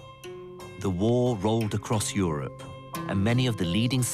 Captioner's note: voiceover